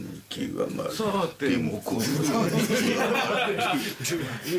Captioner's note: staff members chuckle